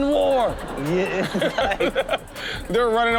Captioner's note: audience laughs